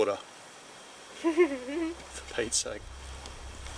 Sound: laughs

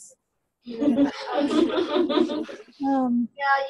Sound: laughter

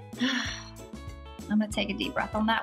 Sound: tropical music; sighs

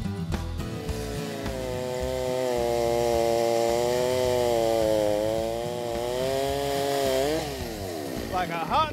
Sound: saw buzzing

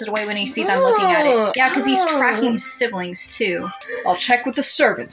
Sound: whiny

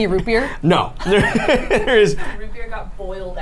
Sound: laughs

